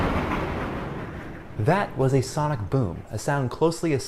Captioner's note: sonic Boom